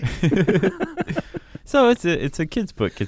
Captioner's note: laughs